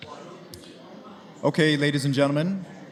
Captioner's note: background chatter